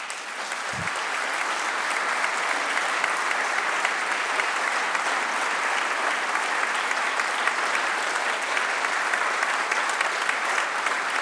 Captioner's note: applause